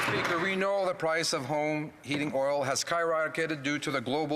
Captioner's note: speaking in French